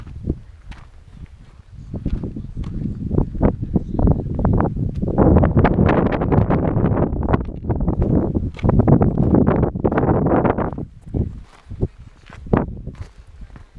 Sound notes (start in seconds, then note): 3.8 wind gusts